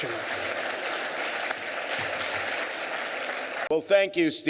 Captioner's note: applause